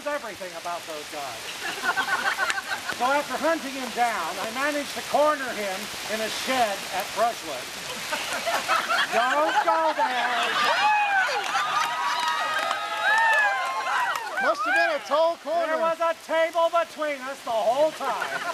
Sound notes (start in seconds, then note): 7.8 crowd laughs; 10.8 crowd laughs louder